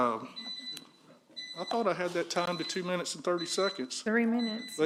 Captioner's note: timer